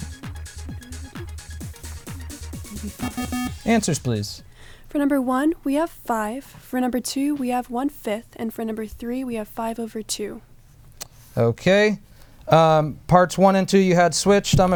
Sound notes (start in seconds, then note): 3.0 bell